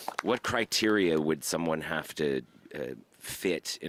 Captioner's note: applause